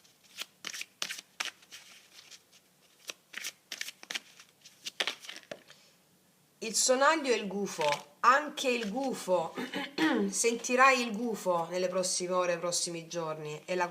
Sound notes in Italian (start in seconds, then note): 9.5 schiarire la voce